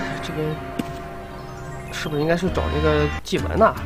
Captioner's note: gong